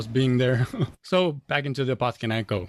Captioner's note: laughs